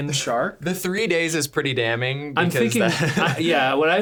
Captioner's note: laughing